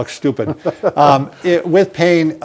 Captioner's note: chuckles